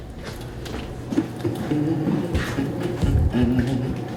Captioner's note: Jeff hums